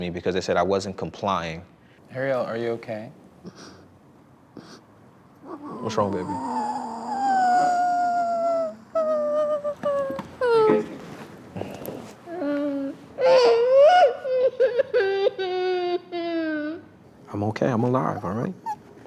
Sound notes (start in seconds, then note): 5.4 crying; 12.2 sobbing